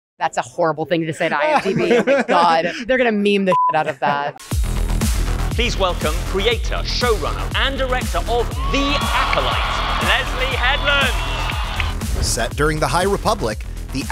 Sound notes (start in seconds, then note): 4.7 upbeat music; 10.9 crowd cheering